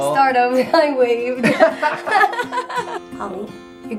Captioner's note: laughter